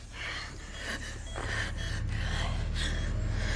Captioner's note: breathing heavily